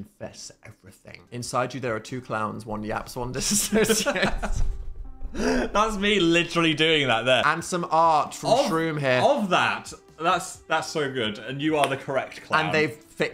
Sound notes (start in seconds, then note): 3.4 hosts laugh; 11.8 claps